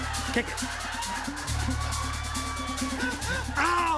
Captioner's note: laughter